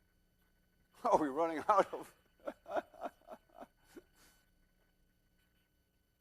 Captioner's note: chuckles